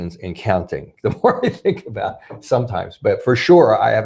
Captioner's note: laughs